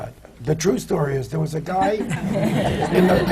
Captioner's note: laughter